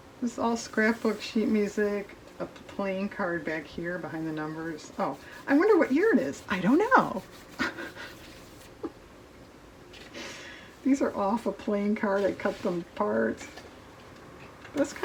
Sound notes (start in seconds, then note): 9.9 laughs